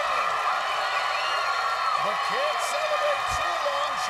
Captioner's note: cheers and applause